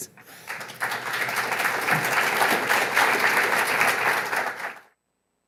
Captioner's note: applause